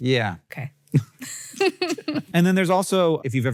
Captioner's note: Rachel and Hank laugh